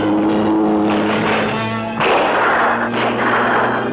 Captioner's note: gunshots